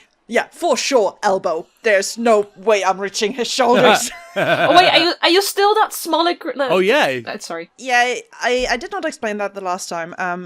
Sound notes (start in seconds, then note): 3.7 laughs; 3.7 laughter